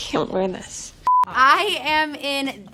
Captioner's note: beep